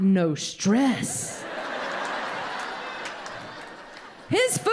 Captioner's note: audience laughing